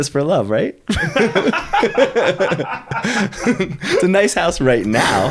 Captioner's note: both laughing